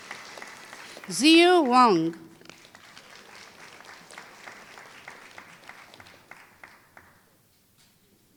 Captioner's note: applause